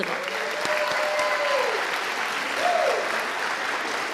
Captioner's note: audience applauding